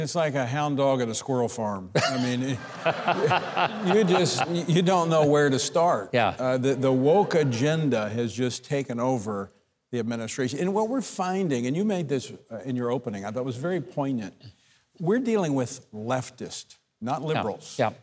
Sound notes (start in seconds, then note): 2.0 all laughs